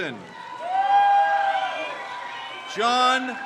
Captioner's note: crowd cheers